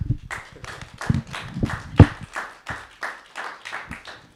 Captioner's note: audience clapping